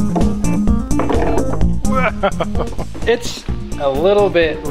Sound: laughing

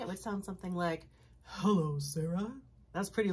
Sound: uses low voice

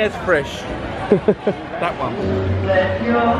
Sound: laughs

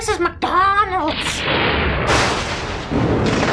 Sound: spooky thunder

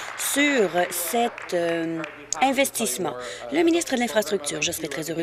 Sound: applause

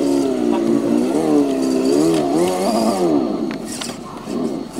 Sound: engine revving

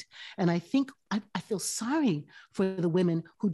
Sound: none

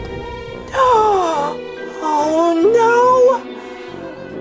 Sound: gasps

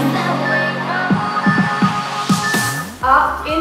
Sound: beeping

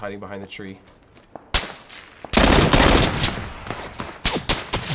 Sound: guns firing

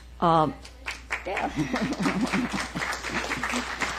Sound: applause

